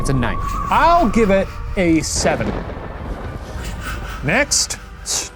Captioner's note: thunder rumbles